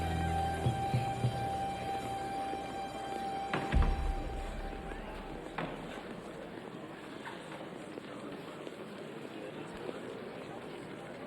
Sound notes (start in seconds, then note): 3.6 door clatters; 3.7 people chattering